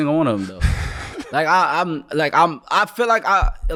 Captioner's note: laughing